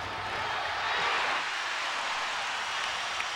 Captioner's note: crowd cheering